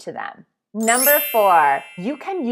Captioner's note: twinkles